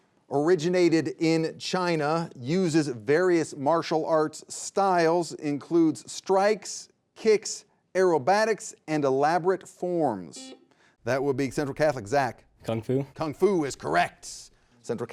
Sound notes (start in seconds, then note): 10.8 buzzer buzzing